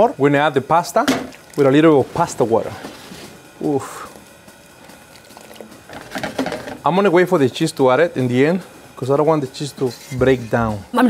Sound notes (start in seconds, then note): 5.4 pan clatters